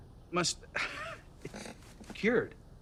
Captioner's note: laughs